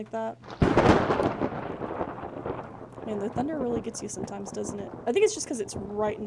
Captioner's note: thunder